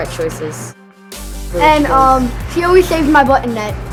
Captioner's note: speaking off mic